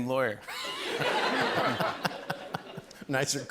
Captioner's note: laughter